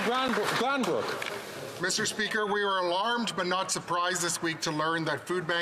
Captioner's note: some Applause